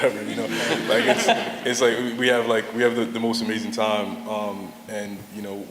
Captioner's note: laughter